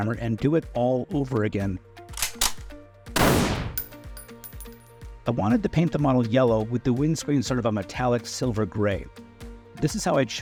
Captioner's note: gunshot sound